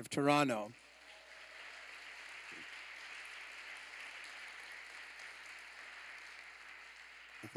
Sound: applause

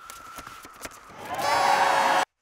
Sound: applause

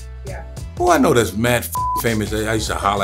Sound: beeps

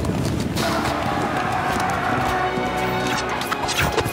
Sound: horse hooves thundering; soldiers yelling; arrows whooshing; gentle solemn music

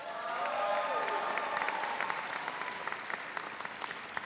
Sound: audience cheering

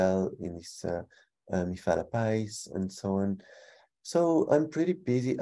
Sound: speaking in foreign language

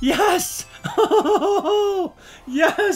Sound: laughter

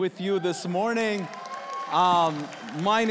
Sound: congregation cheering

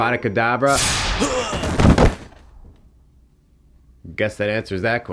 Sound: magic whooshing; bystander thudding; bystander grunting

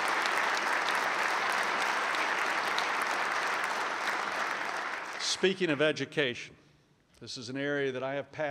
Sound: applause

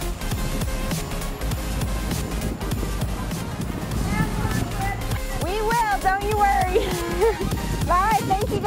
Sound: laughs

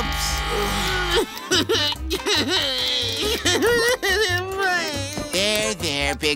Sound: crying

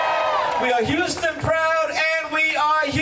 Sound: cheering

